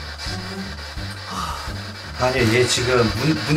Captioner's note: exhale